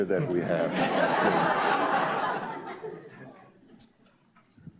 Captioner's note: audience laughs